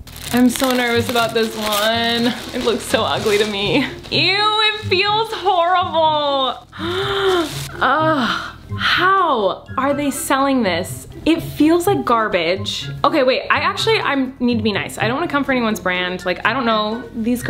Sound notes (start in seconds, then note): 6.6 gasps; 7.7 groans